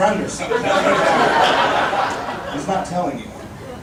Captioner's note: audience laughing